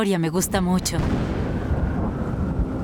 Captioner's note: thunder